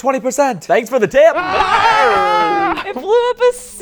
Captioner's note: everyone screaming